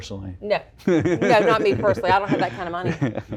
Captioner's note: laugh